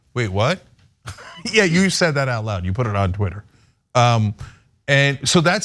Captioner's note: laugh